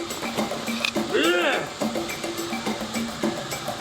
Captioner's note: Og grunting; upbeat music continues